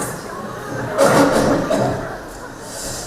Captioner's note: coughs